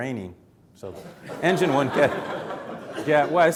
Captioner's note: audience chuckling